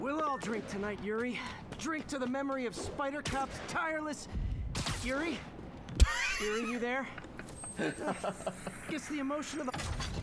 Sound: laughs

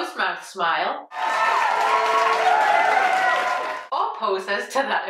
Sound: crowd cheers

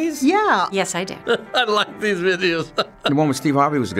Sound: chuckles

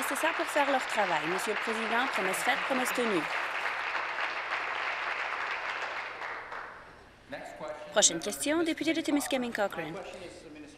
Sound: applause

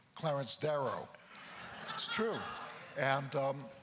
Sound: crowd laughter

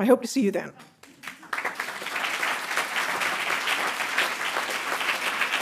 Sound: audience applauding

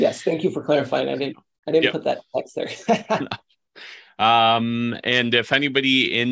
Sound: laughs

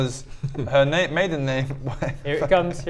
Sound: laughs

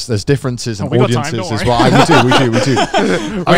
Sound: co-hosts laugh

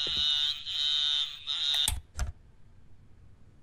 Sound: radio buzzes

